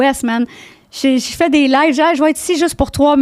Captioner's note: in french